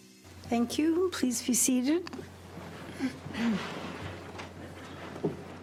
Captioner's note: clears throat